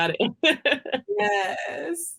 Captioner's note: laughs